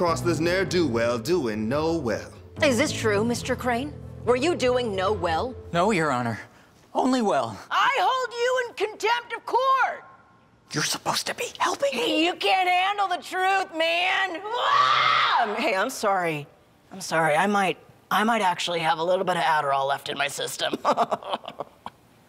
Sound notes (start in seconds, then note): 10.9 whispering; 14.4 screams; 21.1 chuckle